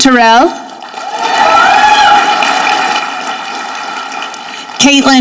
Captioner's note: audience clapping